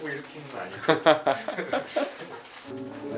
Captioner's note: hahaha